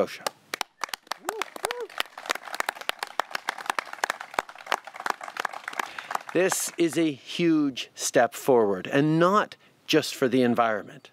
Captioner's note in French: Applaudissements